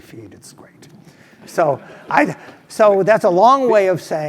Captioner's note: laugh